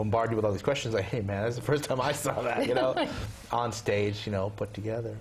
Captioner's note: laugh